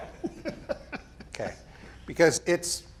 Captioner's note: people laughing